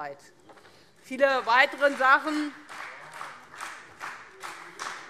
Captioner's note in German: Beifall Freie Demokraten